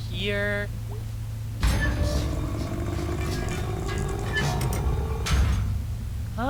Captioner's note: metal creaking, roaring noise